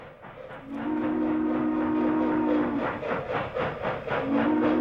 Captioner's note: horn blowing